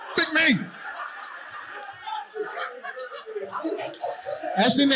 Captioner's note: audience laughing